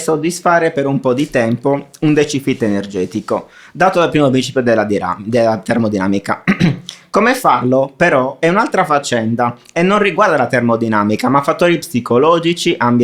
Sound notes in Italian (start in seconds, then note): 6.4 schiarire la voce